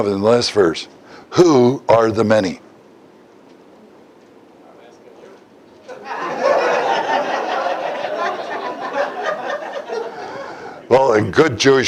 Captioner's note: Смех